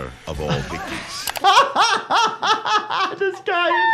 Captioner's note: both laughing